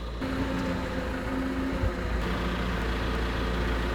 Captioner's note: engine rumbles